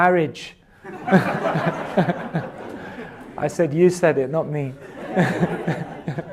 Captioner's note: laughs